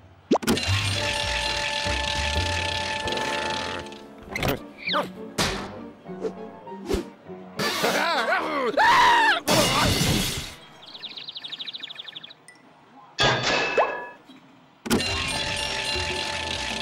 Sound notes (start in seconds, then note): 0.9 bell ringing; 3.0 growls; 7.7 laughs maniacally; 9.5 crash; 10.5 birds chirping; 13.9 pop; 15.2 bell ringing